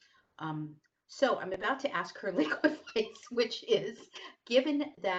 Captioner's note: laughter